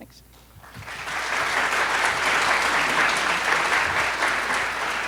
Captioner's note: audience applauds